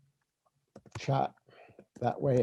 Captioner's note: keyboard clicking